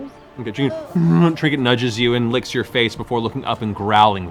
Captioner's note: bear noises